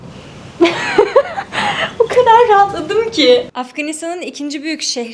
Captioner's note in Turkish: kahkaha